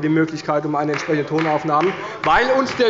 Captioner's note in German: Beifall bei Abgeordneten der CDU